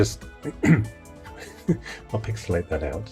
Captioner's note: clearing throat; laughing